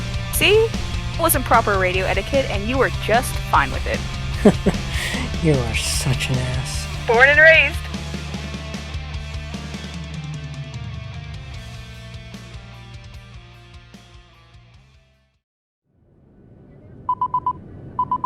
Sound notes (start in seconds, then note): 4.3 light laugh